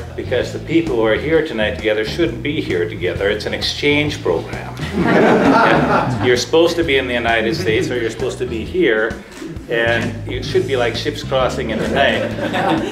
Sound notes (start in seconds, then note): 4.8 laughter